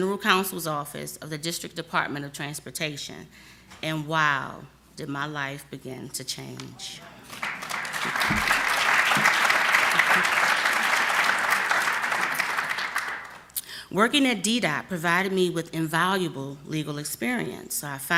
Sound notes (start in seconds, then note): 11.9 applause